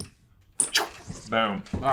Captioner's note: squeak